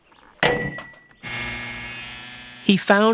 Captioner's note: clank; engine running